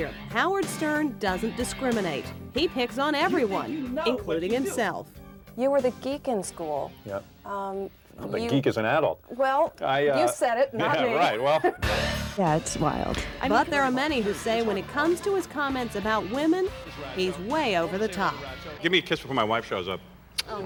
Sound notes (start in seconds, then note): 10.9 laughing